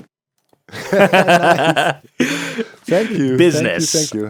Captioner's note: BOTH laugh